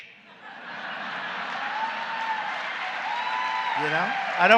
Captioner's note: laughter and applause